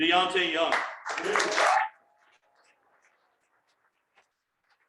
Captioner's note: cheering and applause